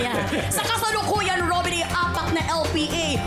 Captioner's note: chuckles